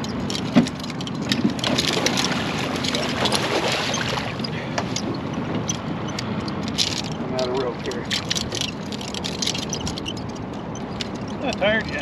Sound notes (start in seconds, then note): 0.0 clattering; 2.4 fish splashing; 7.9 clattering